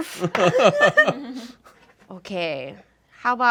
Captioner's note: group laughs